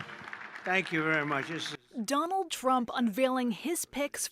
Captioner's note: applause